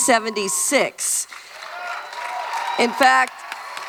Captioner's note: cheering and clapping